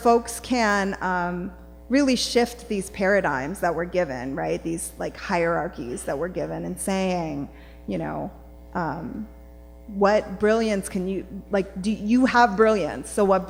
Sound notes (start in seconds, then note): none